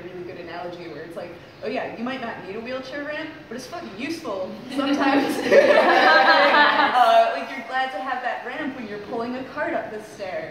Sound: laughter

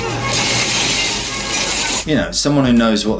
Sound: glass crashes

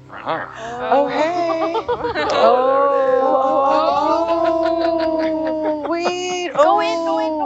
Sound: everyone laughs and exclaims in excitement

